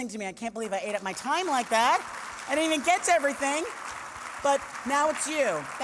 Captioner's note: applause